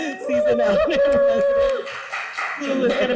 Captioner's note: group cheers